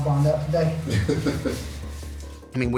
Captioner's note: laughs